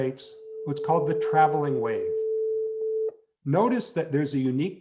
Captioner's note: tuning fork humming